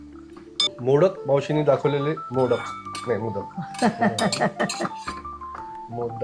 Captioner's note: laughter